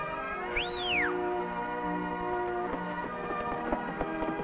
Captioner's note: Ricky whistles